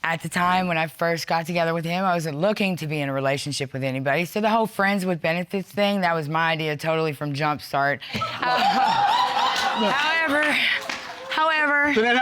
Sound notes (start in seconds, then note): 8.2 audience laughing